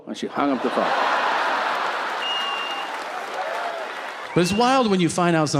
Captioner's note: audience laughing